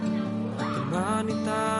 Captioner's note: shouting